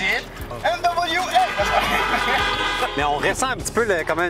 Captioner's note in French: klaxons